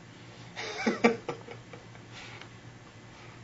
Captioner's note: laughs